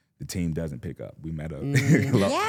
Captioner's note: laughs